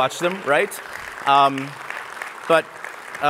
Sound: applause

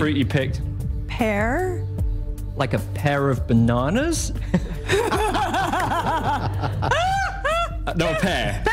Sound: laughter

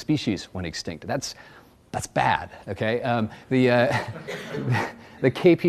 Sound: audience laughs

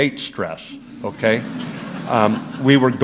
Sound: laughter

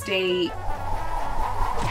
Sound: whooshing newspaper

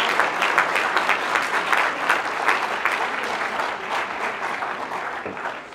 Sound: applause

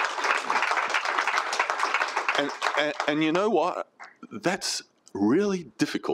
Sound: applause

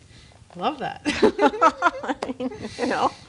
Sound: laughing

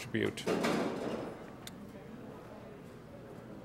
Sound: door Slams

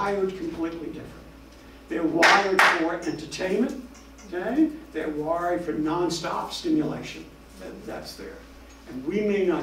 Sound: claps hands

